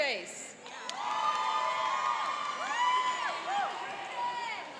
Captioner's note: cheering and applauding